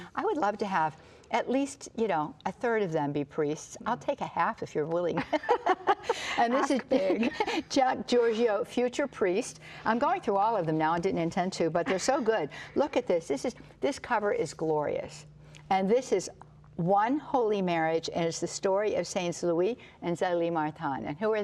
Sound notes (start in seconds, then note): 5.2 both laugh